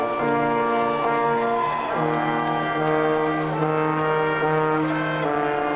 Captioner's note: audience applauding